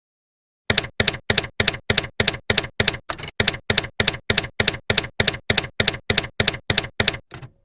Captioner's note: typewriter keys clacking